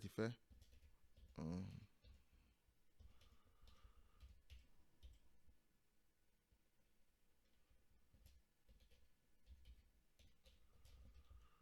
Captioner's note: typing